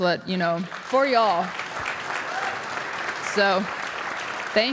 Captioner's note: audience applauding